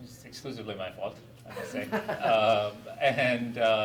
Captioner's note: laughs